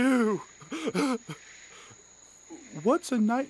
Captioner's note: Dreamer sobs again